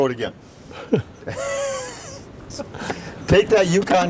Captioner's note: man laughing